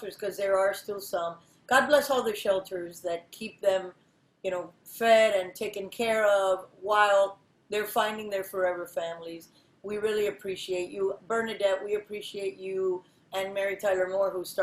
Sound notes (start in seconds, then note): none